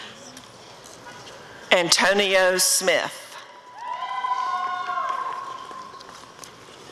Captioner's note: applause and cheering